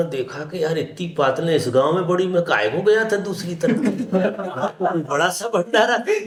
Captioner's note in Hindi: हंसी